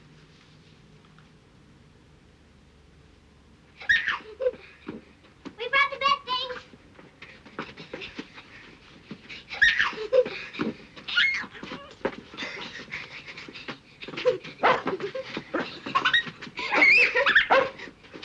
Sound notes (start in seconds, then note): 3.8 girls laugh; 9.6 girls laugh; 14.6 jack barking